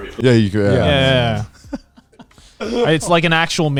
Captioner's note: laughs